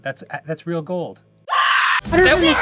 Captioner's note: jumpscare scream